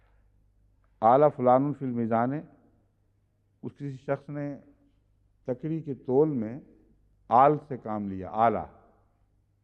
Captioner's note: Arabic